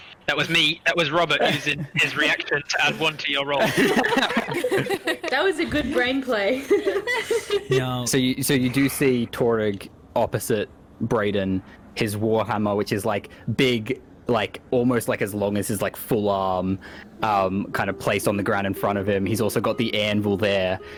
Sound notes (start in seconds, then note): 3.6 all relieved laughter; 6.3 giggles